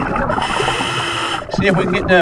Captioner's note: regulator hissing